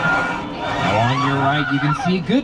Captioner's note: sea bird squawks